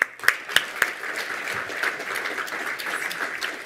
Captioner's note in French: Applaudissements